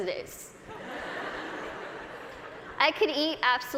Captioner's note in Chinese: 大笑